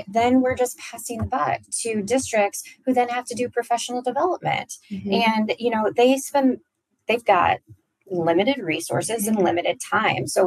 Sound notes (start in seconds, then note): none